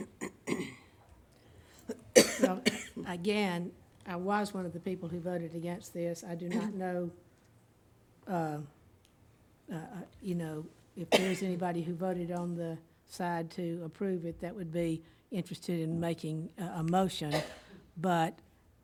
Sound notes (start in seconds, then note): 0.0 clearing throat; 1.8 coughing